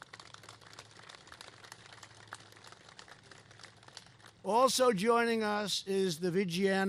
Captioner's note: applause